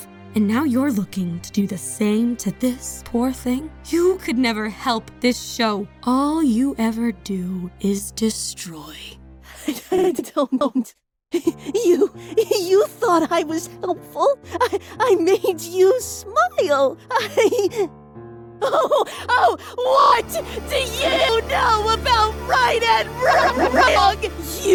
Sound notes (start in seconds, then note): 9.5 laughing, desperate; 17.1 laughs